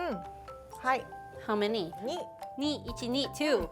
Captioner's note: speaking Japanese